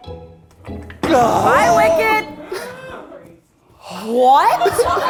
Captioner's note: crew gasping